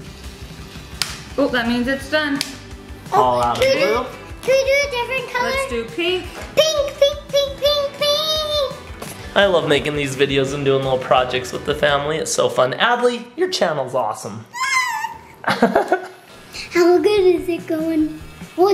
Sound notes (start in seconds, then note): 14.5 squeals; 15.1 dad laughs